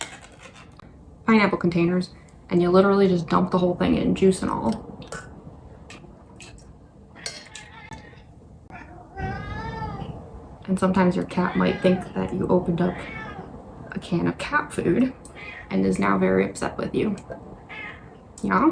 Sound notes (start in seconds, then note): 8.7 sounds of a cat screaming; 17.7 meow